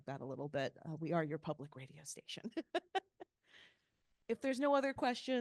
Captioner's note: laughing